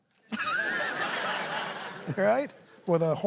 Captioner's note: laughter